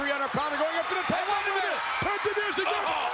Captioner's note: spectators cheering